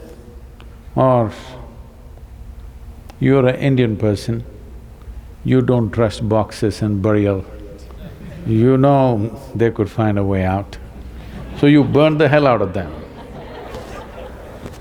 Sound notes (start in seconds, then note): 7.9 laughter; 11.0 laughter